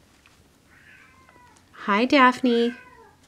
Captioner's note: cat meows